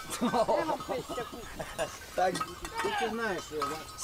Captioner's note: man speaking native language